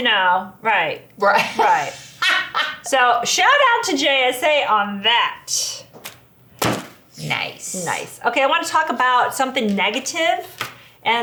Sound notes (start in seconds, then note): 1.4 laughing